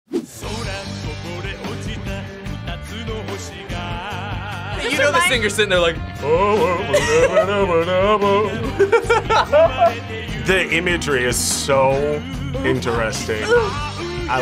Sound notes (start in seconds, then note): 0.1 upbeat music; 6.1 vocalizes; 8.2 laughs